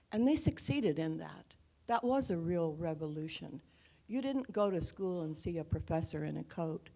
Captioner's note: none